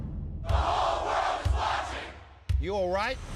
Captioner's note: crowd